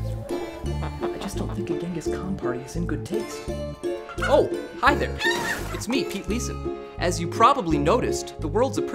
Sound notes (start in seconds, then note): 4.3 chicken clucks